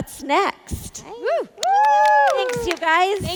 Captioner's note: panel members applauding